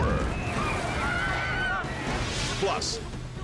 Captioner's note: crowd shrieking